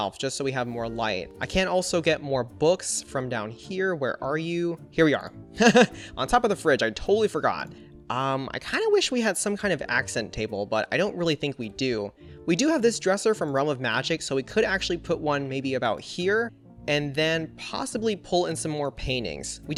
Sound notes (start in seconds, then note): 5.3 laughs